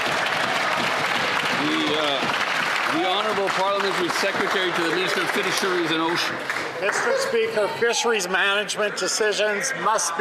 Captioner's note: some Applause